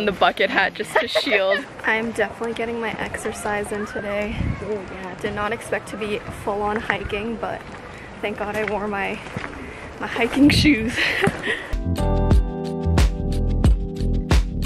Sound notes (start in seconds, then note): 0.4 laughs; 10.9 laughs; 11.7 gentle music